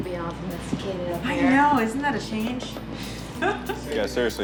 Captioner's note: laughs